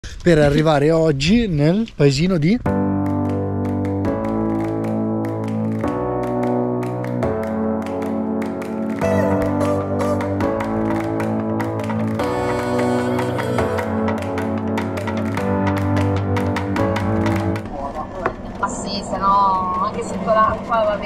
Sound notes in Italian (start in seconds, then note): 15.0 Applauso